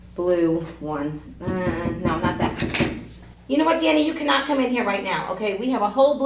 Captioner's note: knock